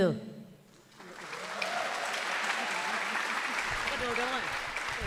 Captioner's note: audience applauds